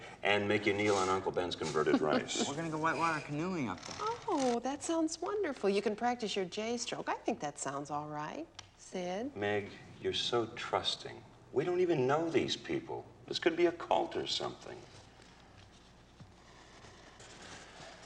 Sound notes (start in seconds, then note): 14.6 papers rustling